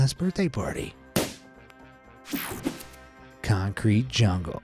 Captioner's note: ballon pops